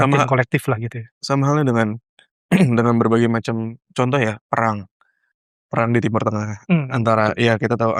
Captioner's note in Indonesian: berdehem